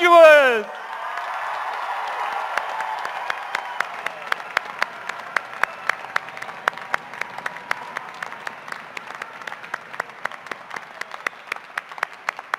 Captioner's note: cheers and applause